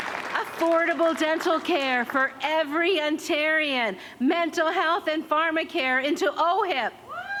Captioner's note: applause